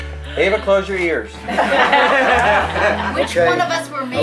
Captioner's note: laughing